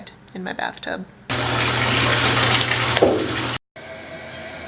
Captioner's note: rushing water sounds